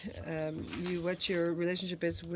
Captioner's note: speaking French